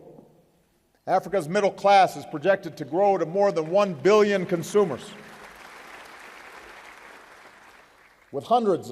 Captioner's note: applause